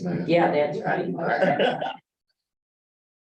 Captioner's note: laughter